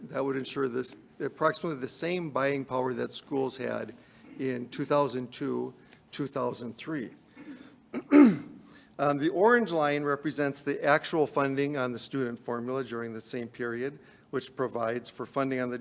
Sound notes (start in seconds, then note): 7.9 clears throat